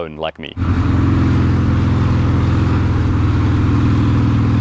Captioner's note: engine roars